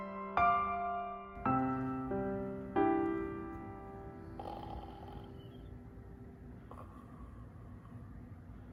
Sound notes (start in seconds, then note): 4.2 snoring